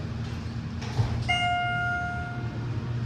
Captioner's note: ding